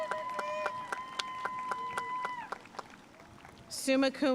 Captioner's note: audience cheering and applauding